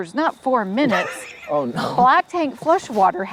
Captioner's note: laughs